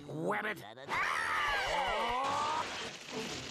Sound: screaming

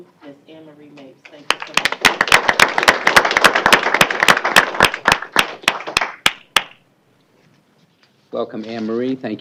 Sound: applause

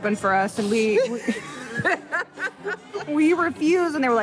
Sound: laughing

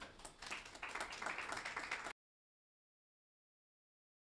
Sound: group applauding

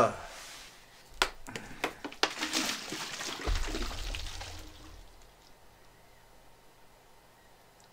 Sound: sound of water gurgling

